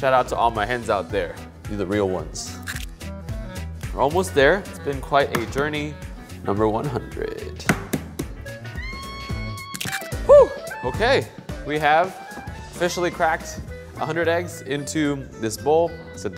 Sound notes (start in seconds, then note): 7.6 egg thudding; 9.7 egg cracking